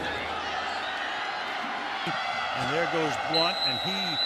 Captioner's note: cheering